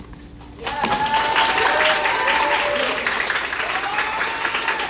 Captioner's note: cheering